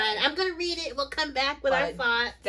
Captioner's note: excited